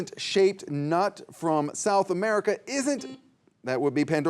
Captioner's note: buzzer buzzing